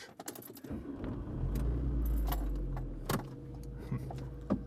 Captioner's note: engine starting